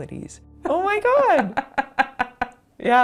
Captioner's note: chuckles